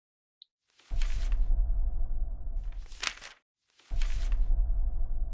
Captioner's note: pages flipping